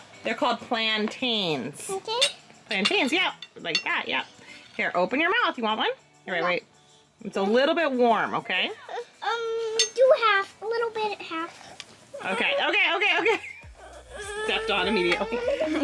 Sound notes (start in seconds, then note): 2.4 speaking gibberish